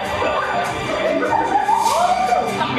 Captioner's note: audience laughs